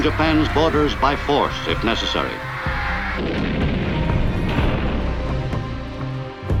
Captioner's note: gunfire exploding